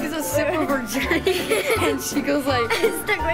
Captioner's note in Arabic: يضحك